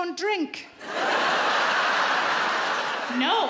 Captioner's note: audience laughs